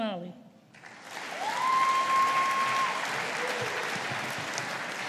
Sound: audience applauding

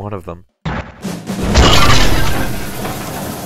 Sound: crash

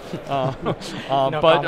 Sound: chuckling

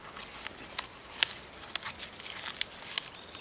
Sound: crunching

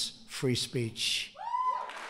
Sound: cheering and applause

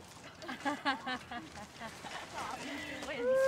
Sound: emmy laughs

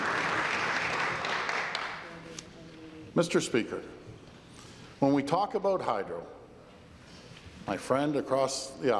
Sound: applause

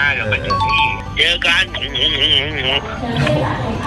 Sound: laughs

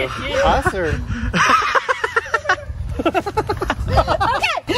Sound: laughs

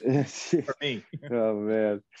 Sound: laughing

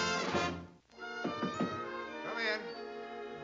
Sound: knocking

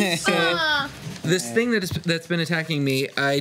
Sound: none

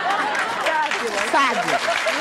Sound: applause

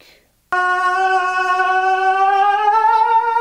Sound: yelling

